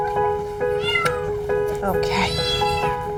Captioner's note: cat mews